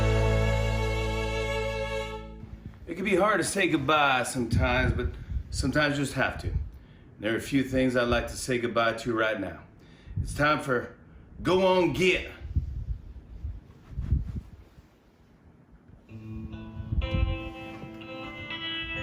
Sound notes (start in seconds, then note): 2.8 with twang